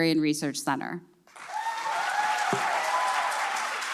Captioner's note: applause